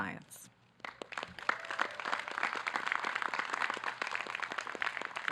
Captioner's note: audience clapping